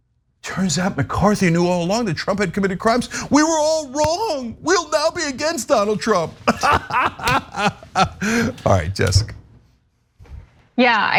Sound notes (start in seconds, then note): 6.0 laugh